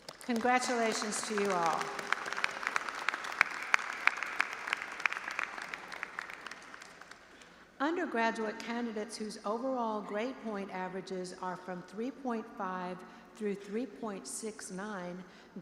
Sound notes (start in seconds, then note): 2.2 audience applauding